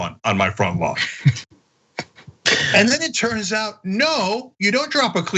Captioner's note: laugh